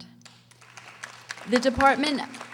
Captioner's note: audience applauding